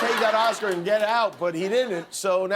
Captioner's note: laughter